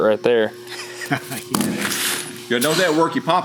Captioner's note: laughs loudly